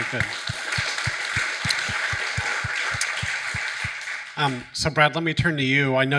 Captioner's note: audience applauding